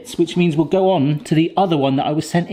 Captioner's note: none